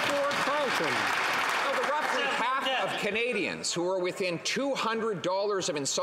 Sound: some Applause

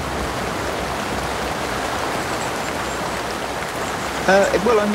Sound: heavy rain

